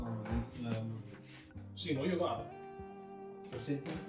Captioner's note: speaking in Hebrew